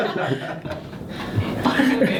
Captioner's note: laughs